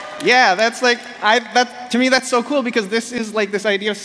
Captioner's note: applause